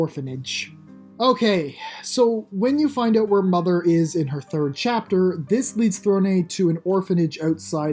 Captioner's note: sigh